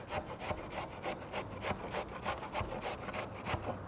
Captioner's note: carrot scrapes